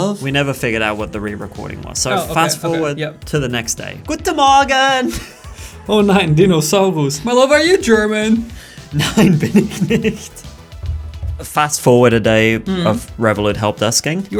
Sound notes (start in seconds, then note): 5.0 laughing; 10.8 both laughing